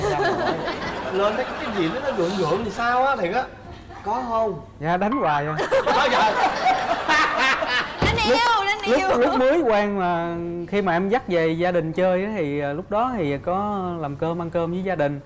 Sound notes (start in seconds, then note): 6.1 laughing